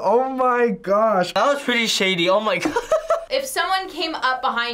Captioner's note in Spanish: risas